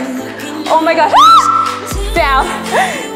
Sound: screams

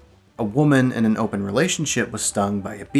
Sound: none

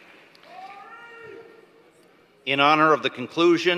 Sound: applause

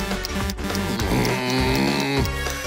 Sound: grumbling

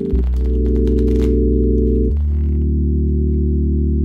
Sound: card shuffle

